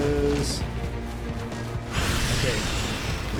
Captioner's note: explosions